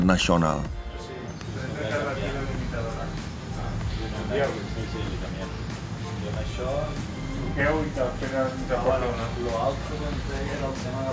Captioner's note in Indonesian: spanish conversation